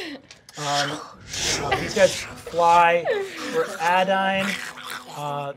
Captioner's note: whooshing and snarling